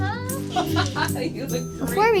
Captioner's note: laughs